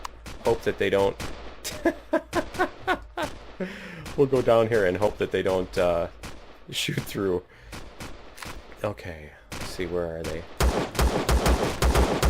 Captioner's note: laughs